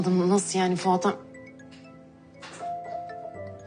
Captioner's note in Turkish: telefon çalar